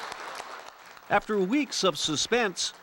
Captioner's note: applause